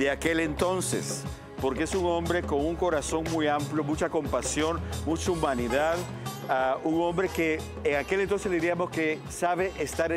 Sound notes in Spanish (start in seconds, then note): none